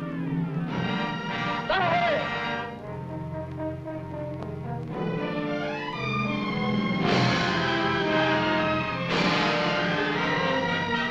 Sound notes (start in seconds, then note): 1.5 man shouting in foreign language; 7.0 triumphant orchestral music